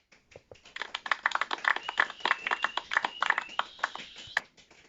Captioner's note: some applause